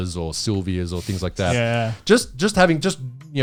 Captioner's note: all laughing